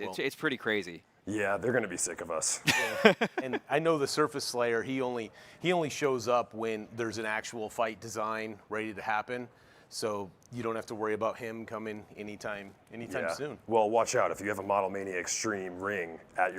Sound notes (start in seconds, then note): 2.6 chuckles